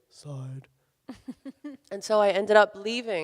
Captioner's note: laughs